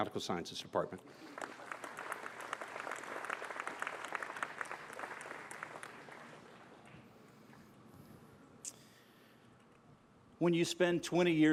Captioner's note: applause